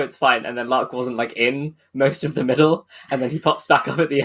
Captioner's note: laughing